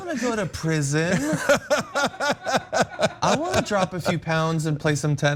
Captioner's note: laugh